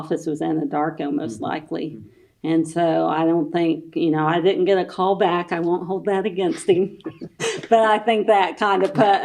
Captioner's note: laughter